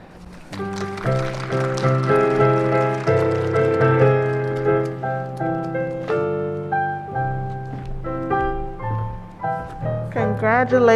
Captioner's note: applause and ♬♬ piano ♬♬